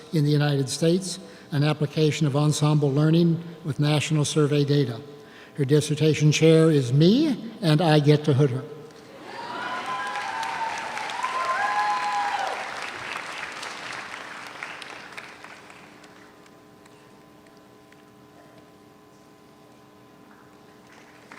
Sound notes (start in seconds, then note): 9.2 audience cheers; 9.2 audience applauds